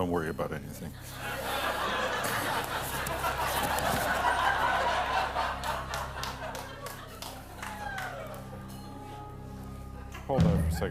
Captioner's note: laughter